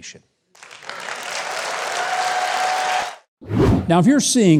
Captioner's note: crowd cheering